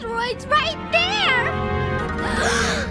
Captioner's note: all gasping